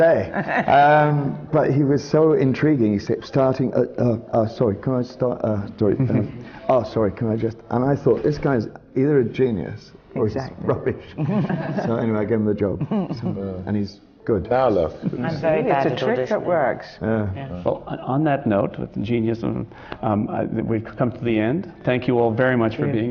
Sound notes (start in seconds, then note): 11.0 laughs